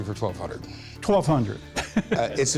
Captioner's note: laughs